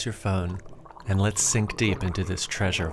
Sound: water burbling

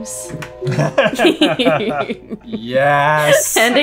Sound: all laughing

